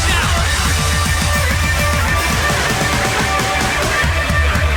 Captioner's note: audience cheers